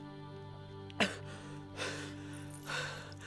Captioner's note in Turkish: Nefes sesleri